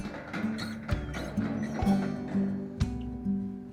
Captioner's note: bangs